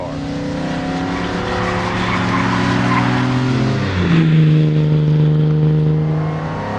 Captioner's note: engine revving and tires screeching